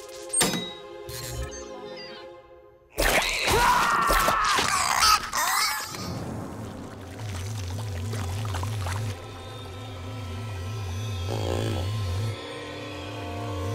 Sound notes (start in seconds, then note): 3.1 screaming